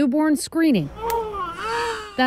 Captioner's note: baby cries